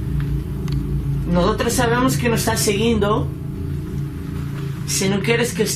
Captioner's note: speaking in foreign language